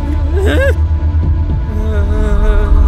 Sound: ground rumbling

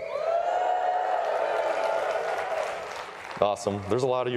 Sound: cheers and applause

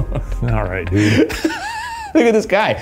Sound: chuckles; laughs

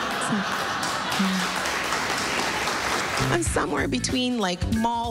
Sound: laughter, applause

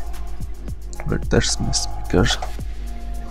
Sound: Bluetooth speaker connects/disconnects

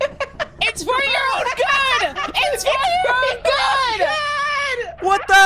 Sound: laughs; laughing

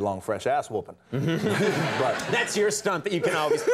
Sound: crowd laughing

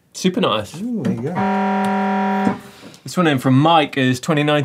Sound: buzzer

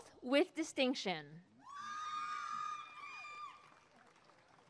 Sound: applause and cheering

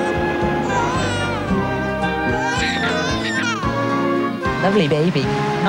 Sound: newborn baby cries

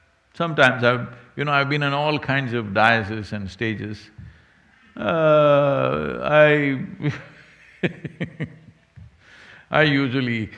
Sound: laughs

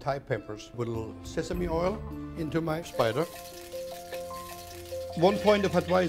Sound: sizzling

